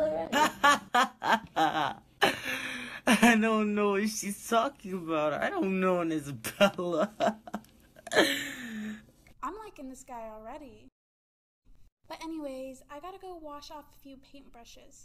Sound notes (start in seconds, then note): 0.0 fake laughing; 8.1 gasping for air